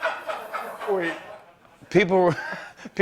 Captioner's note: laughter; laughs